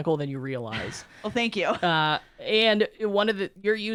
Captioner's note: laughs